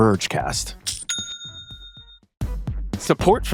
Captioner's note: cash register chiming